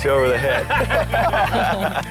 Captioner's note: lalaugughthterer